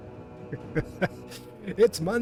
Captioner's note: laugh